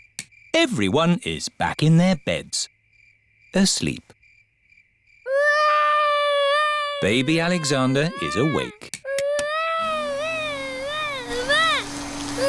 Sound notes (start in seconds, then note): 5.2 baby alexander crying; 9.8 vacuum cleaner whirring